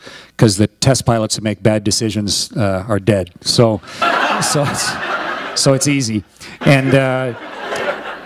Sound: laughter

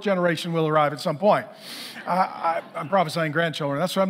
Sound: congregation laughing

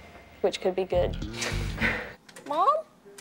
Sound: laughs

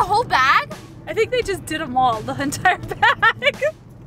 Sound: laughs

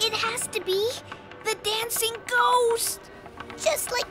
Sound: clopping sound

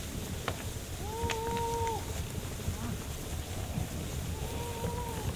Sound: men hoot and chatter

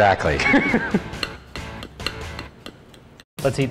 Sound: laughter

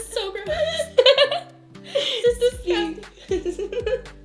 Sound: laughter

